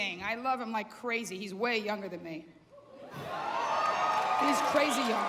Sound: cheering

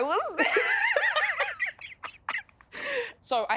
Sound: laughs loudly

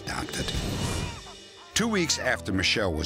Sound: baby crying

